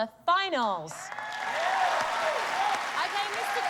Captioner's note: cheers and applause